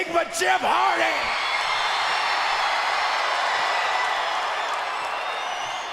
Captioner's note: crowd cheers and whistles